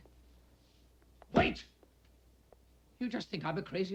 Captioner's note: fist pounds